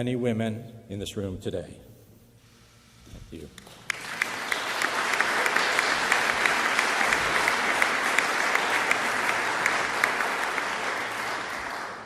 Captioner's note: applause